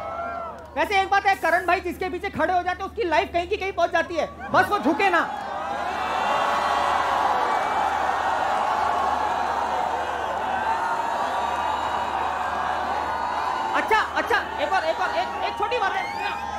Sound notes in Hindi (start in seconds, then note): 4.4 चियरिंग